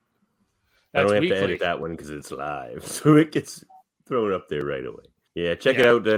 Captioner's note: none